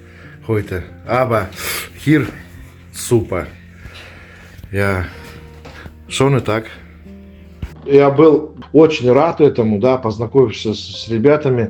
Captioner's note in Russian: фыркает